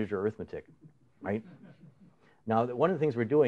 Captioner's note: laughter